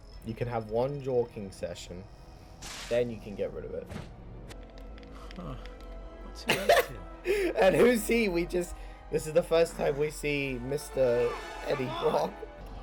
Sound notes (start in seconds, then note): 6.5 laughs